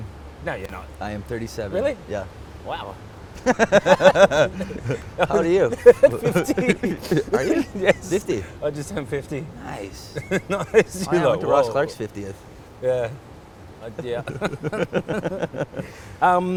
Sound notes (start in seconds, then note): 3.3 laughs; 10.5 laughs; 13.8 laughs